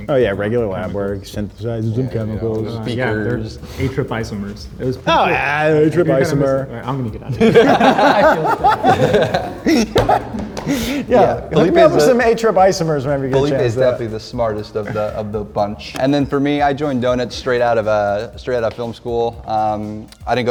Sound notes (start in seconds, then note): 7.2 laughing